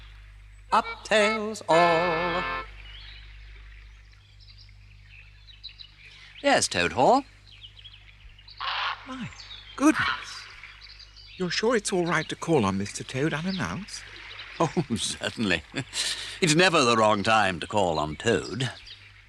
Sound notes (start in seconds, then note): 8.5 bird squawks; 14.6 chuckles